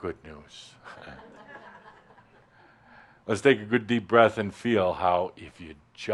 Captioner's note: a few chuckles